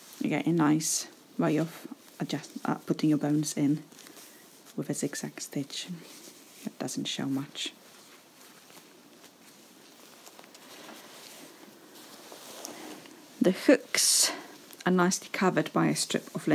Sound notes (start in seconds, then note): 8.7 fabric rustling